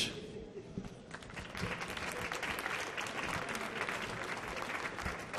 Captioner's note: audience clapping